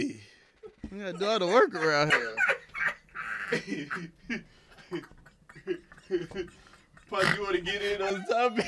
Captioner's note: laughing